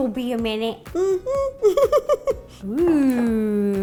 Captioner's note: humming; laughing